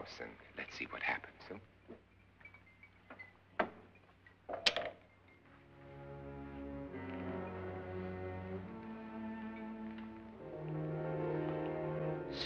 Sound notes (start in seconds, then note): 4.5 glass sets down; 5.4 ominous music